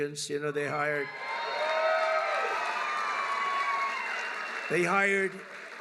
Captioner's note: applause